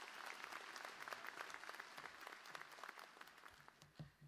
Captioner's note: applause